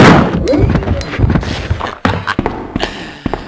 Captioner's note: devilish laugh